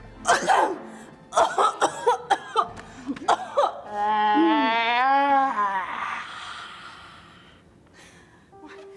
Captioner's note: coughs and sneezes